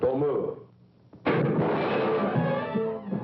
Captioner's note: gunshot